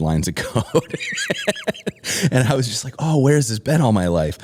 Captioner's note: laughter